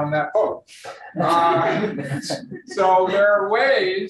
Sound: room laughs

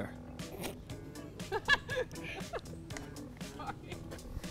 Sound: laughter

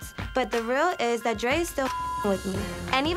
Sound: beep

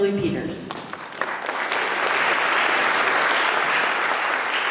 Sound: applause

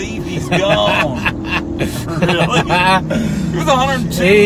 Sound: laughing

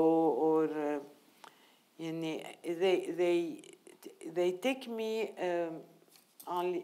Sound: speaking in foreign language

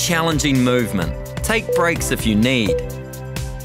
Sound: timer beeping

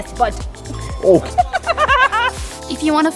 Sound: laughs

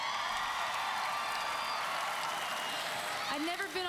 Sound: audience cheering

